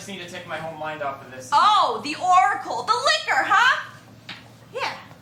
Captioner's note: sarcastically